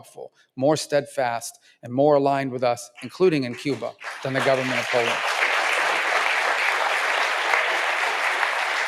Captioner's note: applause